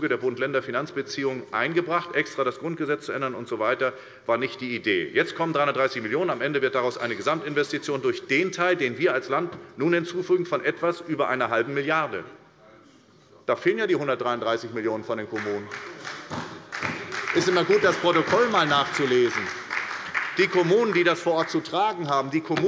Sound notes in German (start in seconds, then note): 15.3 Beifall bei der SPD